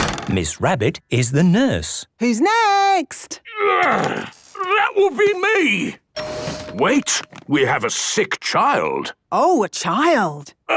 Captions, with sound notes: - Miss Rabbit is the nurse. - Who's next? - Groan! That would be me. - (door dings open) - Wait! We have a sick child! - Oh! A child!